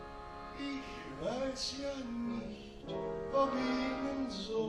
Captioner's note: continues in German